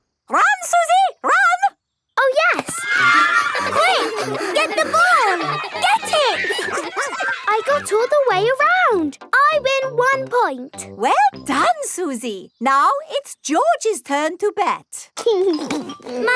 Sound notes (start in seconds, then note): 2.4 excited cheering